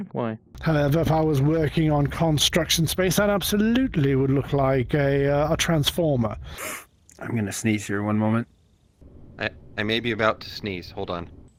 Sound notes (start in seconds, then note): 6.4 sniffles